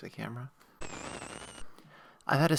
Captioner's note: static